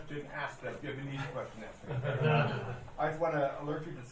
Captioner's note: laughing